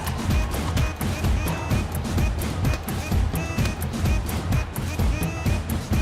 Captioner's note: punches landing